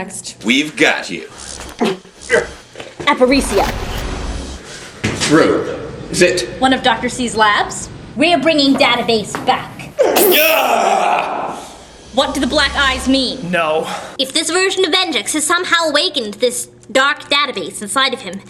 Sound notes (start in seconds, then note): 1.3 hologram crackles